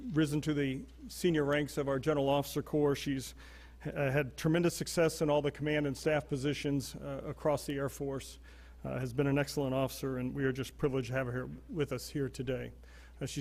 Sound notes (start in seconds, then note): none